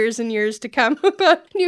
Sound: laughter

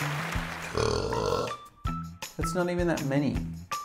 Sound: burp

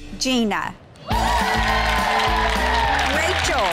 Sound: girls cheering

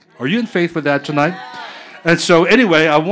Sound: audience agreeing

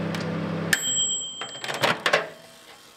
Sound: microwave ending beep

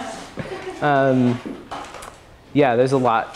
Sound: laughter

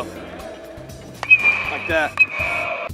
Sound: ball hitting bat

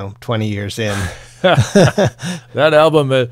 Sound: laughing

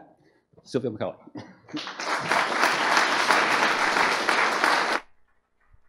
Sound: applause

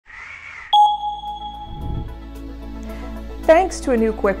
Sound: item pings

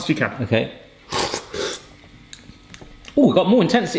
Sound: both slurping

